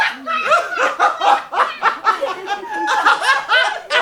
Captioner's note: both laugh